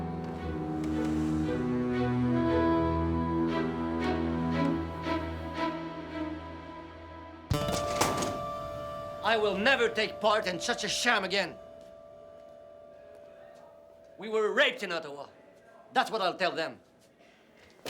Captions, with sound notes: (dramatic music) (drawer slams) (tense music) - I will never take part in such a sham again! We were raped in Ottawa! That's what I'll tell them!